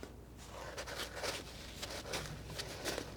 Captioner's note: scratching